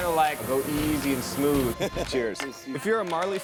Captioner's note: laughs